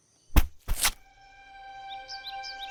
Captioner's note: soft thud; mysterious music